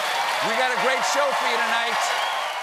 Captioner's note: cheers and applause